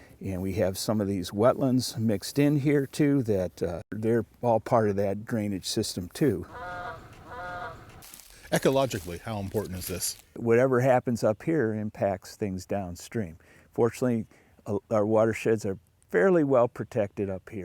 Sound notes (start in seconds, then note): 6.1 birds calling